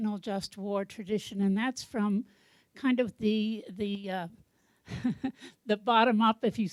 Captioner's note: chuckles